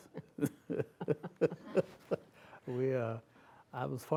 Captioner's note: laughter